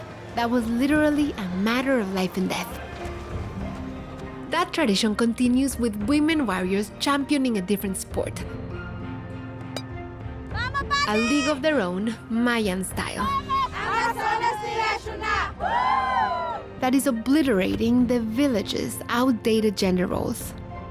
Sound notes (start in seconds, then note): 13.8 women chanting in Spanish